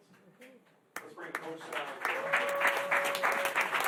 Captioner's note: applause